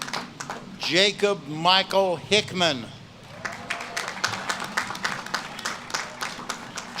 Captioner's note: audience claps and cheers